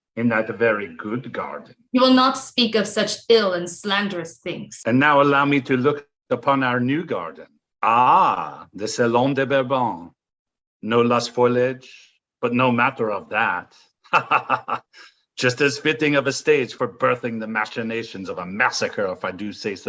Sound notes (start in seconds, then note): 14.1 laughs